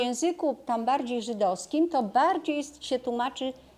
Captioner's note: Hebrew